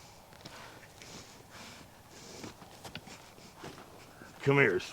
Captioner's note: footsteps approach